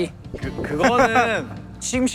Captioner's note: pure water chugging